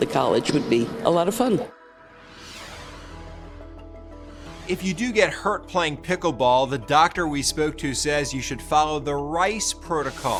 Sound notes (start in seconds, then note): 1.8 transition whooshes